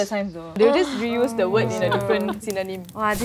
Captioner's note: exclaims